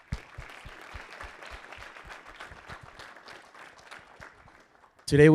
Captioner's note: audience applauding